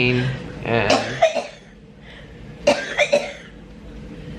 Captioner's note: coughing